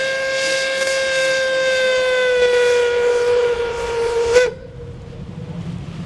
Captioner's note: ship's whistle